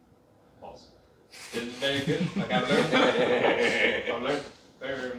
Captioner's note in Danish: holdet griner